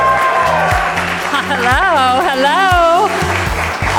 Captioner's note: audience cheering and applauding